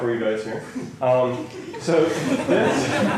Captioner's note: laughter